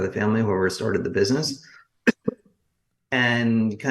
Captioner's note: coughs